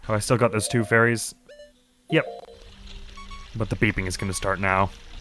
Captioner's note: wounded beeping begins